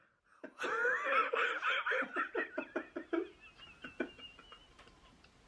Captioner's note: laugh